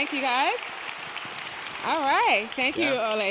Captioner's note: people clapping